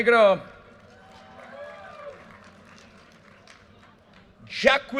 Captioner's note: audience cheers and applause